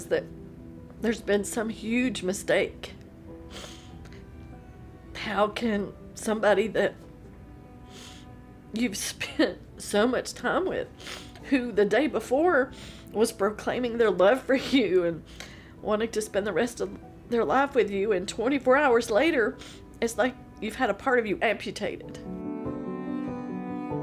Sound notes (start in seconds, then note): 3.5 sniffles